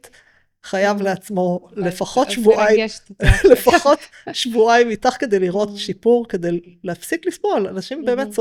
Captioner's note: laughter